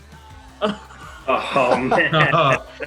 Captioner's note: all laugh